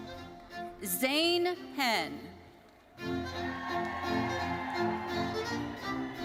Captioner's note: audience cheering